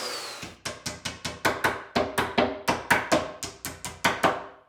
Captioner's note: tool thudding